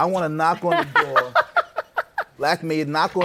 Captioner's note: laughs